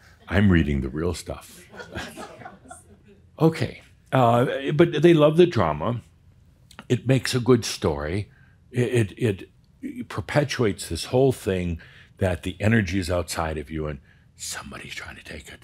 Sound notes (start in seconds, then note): 1.9 a few chuckles